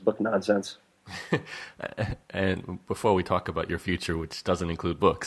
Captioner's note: laughs